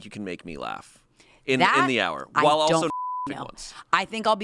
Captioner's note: beep